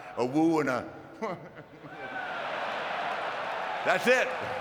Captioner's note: audience cheering